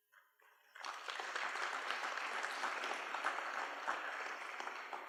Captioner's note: applause